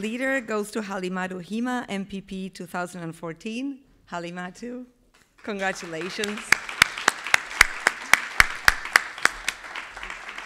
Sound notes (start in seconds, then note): 5.3 everybody clapping